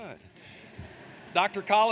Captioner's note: audience laughs